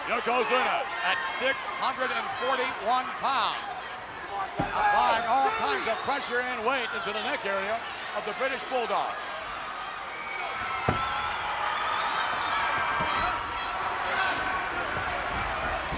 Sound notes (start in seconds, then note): 10.8 audience cheers